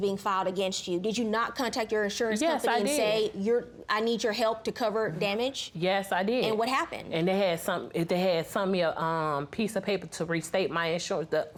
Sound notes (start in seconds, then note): none